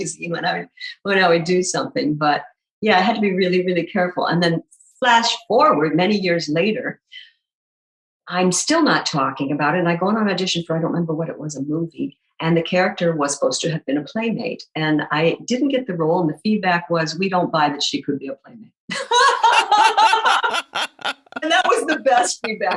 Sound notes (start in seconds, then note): 18.9 guffaw